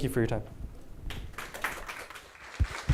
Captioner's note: applause